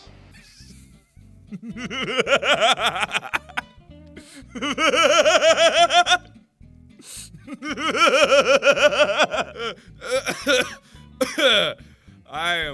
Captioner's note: 11 full seconds of laughing his ass off